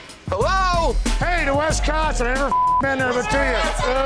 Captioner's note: beep; all cheering